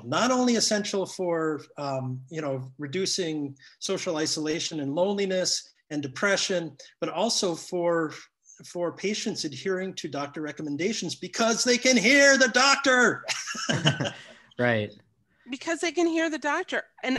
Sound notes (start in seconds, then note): 13.3 all laugh